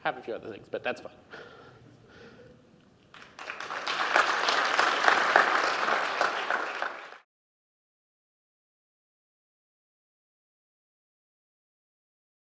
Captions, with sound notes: Have a few other things, but that's fine. (APPLAUSE)